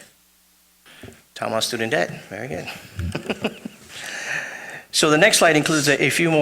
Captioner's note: laughs